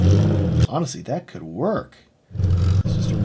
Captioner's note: car engine revving